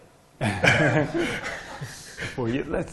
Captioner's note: laughter